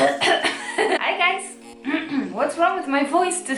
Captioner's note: clearing throat